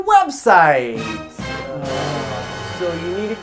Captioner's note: ominous musical flourish; both sighing